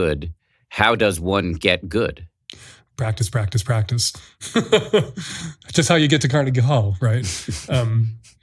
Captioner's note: laughs